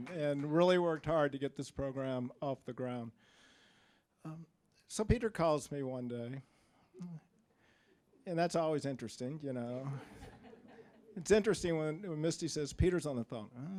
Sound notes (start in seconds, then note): 9.8 scattered laughing